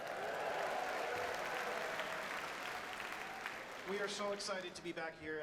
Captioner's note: audience cheers and applauds